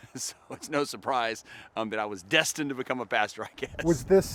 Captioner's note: laughter